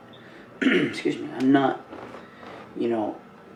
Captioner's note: clears throat